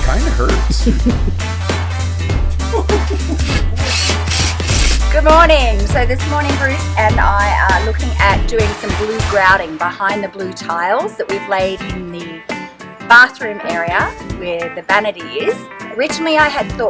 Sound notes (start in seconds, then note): 2.7 laughing